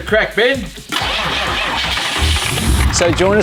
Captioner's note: engine starts